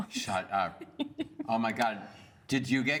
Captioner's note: giggles